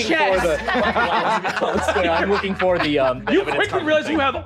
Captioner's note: players laughing